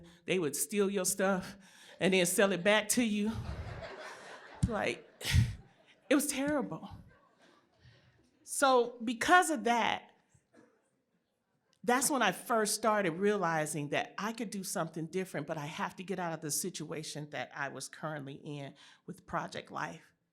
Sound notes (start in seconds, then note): 3.1 laughter